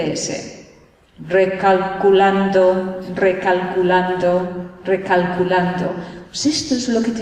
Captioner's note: imitates gps